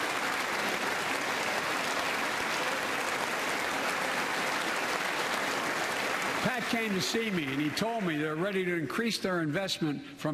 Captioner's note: applause